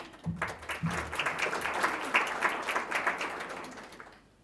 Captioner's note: audience applause